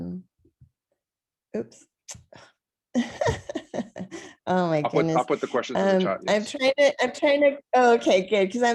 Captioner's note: laughter